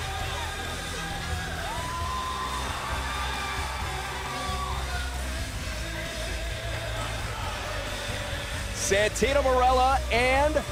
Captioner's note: crowd chatter